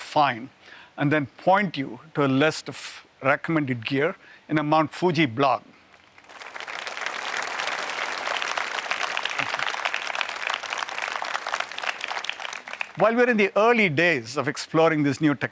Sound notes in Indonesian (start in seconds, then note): 5.9 Tepuk tangan